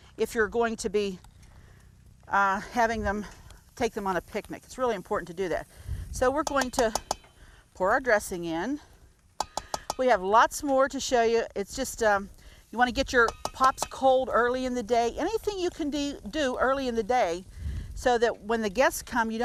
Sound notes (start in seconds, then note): 6.4 spoon banging